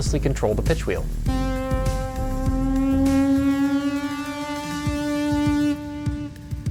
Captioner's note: electronic Tone